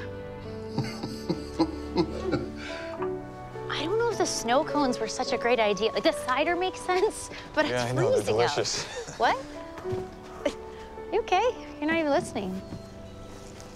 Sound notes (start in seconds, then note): 0.7 dad chuckles